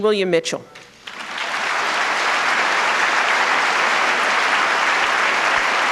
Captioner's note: applause